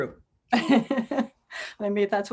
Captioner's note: laughs